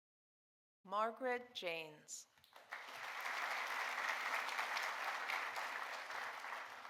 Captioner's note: audience applauding